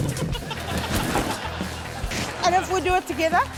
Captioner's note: laughter